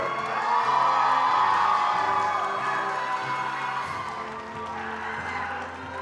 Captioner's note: attendees cheering and applauding